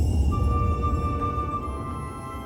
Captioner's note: rumbling